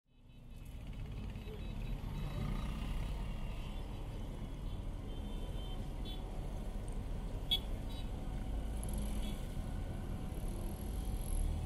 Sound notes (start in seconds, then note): 0.0 traffic sounds